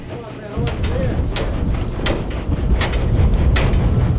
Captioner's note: icepick banging